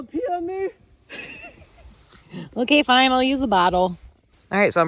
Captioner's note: chuckles